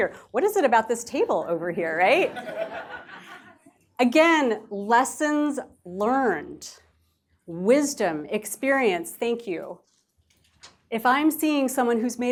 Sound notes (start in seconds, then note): 2.2 laughter